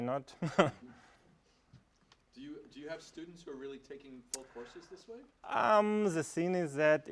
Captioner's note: laugh